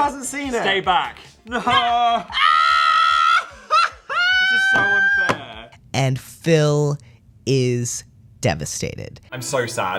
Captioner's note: scream-laughs